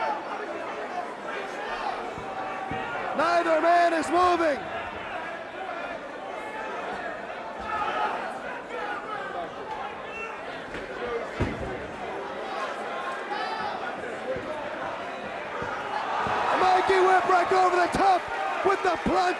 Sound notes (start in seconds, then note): 0.2 crowd chatter; 5.8 crowd chatter